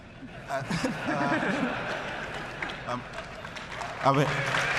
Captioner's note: laughter; applause